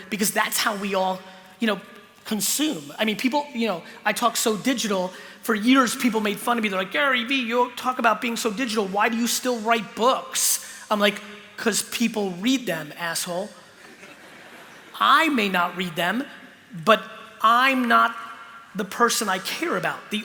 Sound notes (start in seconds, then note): 13.8 laughter